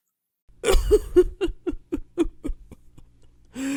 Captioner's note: crying